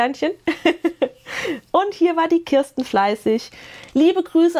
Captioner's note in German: Gelächter